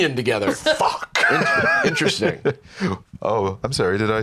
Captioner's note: laughs